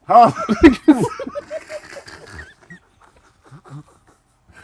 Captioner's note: laughter